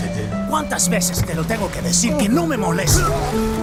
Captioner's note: Spanish